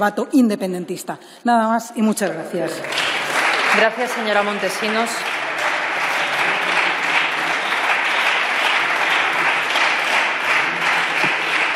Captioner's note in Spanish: Aplausos